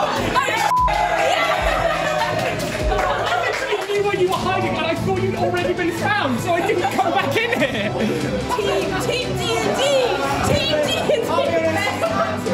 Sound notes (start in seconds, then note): 0.0 someone shouting; 2.3 laughter and applause